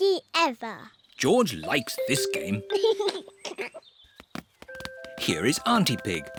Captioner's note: giggles